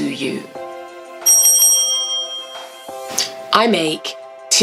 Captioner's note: bell ding